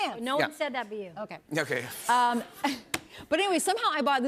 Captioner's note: laughs